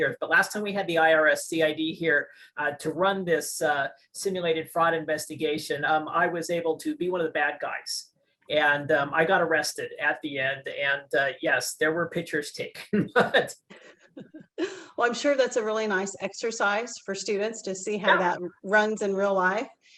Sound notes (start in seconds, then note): 12.7 laugh